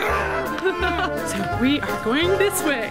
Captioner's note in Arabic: يضحك